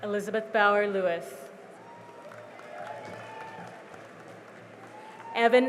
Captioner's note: cheering and applause